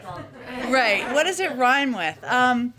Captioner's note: laughter